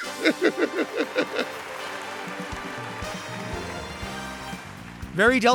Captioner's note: lively music; Latrice laughing